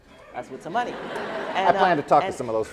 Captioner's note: laughing